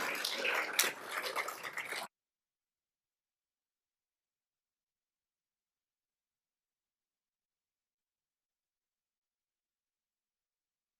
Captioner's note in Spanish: aplausos